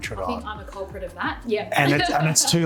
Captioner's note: laughs